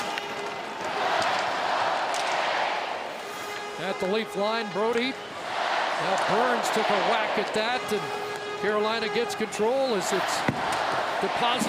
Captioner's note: cheering